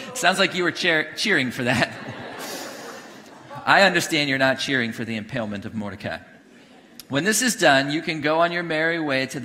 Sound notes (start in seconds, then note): 1.6 congregation laughing